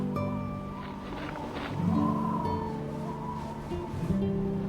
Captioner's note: gravel crunching; soft music